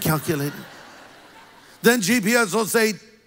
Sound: congregation laughs

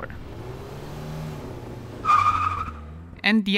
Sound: tires squealing

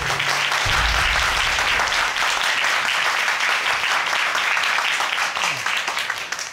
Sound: crowd clapping

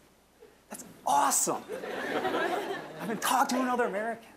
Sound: audience laughing

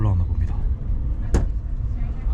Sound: thud

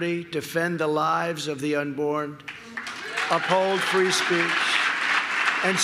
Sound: applause

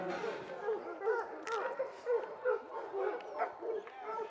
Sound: dogs barking

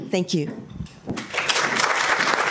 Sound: applause

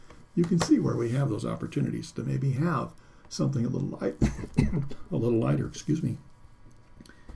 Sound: coughs

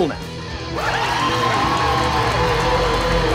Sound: cheers

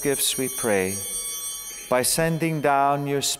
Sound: bell ringing

